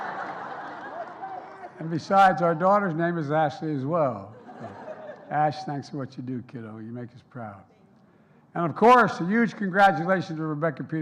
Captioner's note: applause; laughter